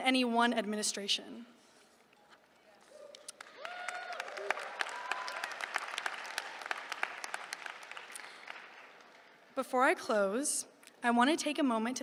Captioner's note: applause